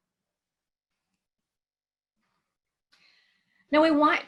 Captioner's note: silence